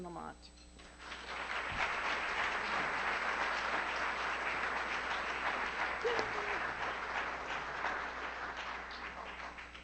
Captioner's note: applause